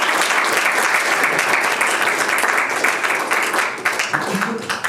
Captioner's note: audience applauding